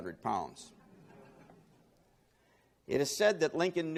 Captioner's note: laughing